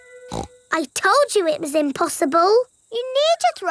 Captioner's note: snorts